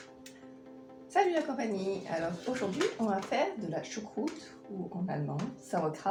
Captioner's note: french